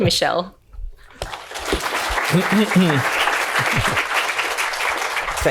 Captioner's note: applause